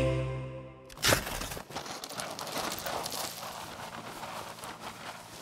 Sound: cereal dropping and crunching

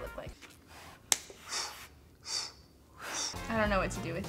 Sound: blows air

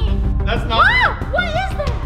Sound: screaming

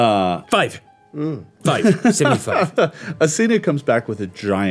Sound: laughing

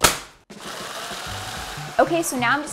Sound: blender whirring

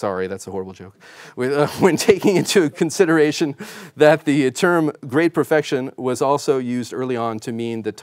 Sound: laughing

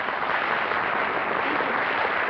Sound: applause

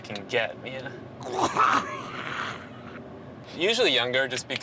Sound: retching

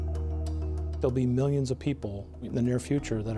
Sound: gentle music; voiceover

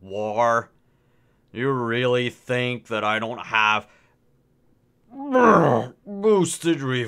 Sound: belch

